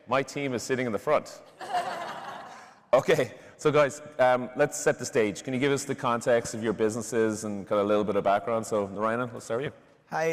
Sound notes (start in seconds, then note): 1.5 laughter